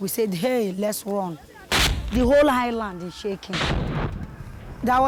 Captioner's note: explosions booming